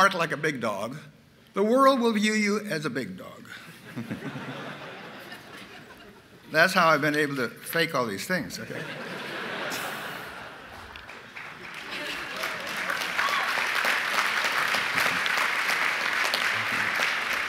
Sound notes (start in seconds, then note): 3.6 laughter